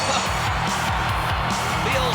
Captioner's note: laugh